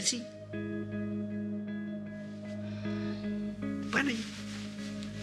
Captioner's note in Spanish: suspiros